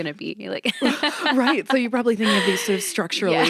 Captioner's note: laughs